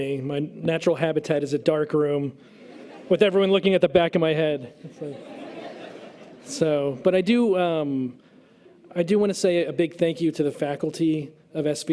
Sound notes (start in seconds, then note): 4.7 audience laughter